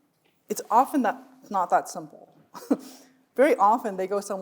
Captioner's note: chuckles